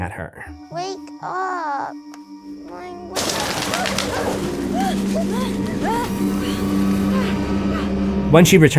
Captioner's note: swatting and screaming